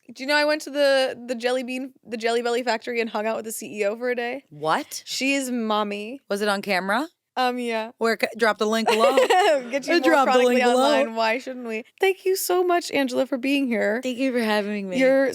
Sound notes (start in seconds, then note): 8.8 laughs